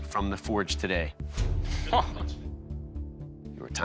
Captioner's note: chuckles